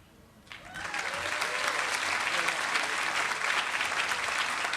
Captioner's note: applause